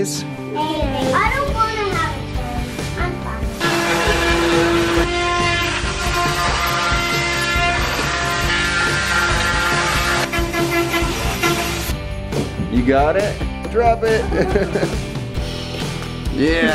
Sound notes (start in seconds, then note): 3.6 power tool sounds; 14.1 laughs